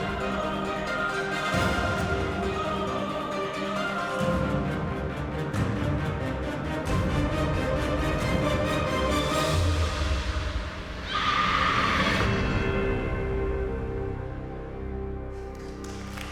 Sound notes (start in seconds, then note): 11.0 screaming